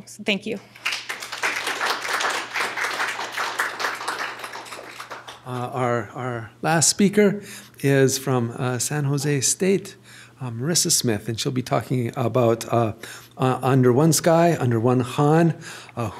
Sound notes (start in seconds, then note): 0.6 applause